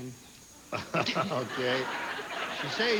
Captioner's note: laughs